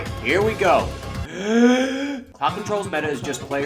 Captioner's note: comically Deep Breath